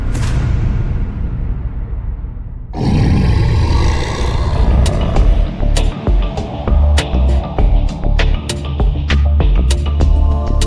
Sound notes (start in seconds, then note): 0.1 dramatic music; 2.7 creature growls; 5.7 solemn music